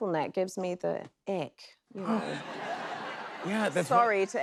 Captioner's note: laughter